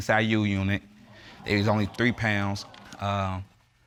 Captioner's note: audience exclaiming